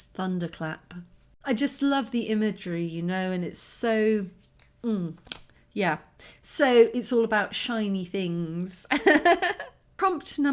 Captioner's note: laughing